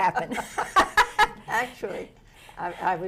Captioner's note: laughs